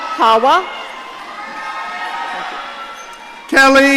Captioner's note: audience cheering